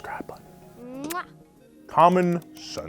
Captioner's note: kisses